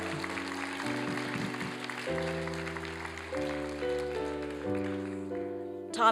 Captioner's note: applause